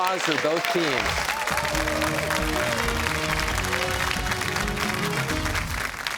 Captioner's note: cheers and applause